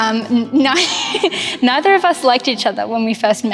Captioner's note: laughing